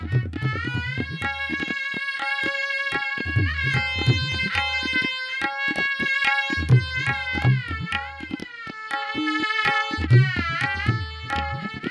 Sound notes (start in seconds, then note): none